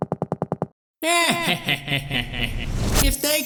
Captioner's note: dimentio laughs